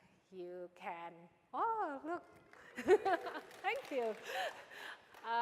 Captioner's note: applause